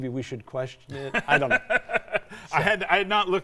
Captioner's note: both laughing